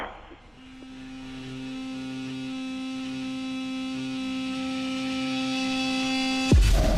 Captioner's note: soft ominous music; TV whooshing